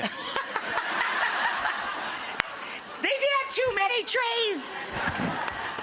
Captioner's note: laughs